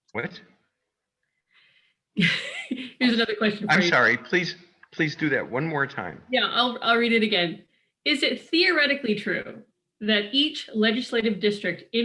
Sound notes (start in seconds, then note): 2.2 laughs